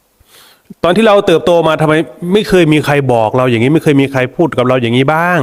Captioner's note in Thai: เสียงสูดหายใจ